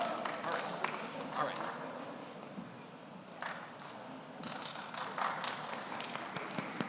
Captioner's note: scattered audience applause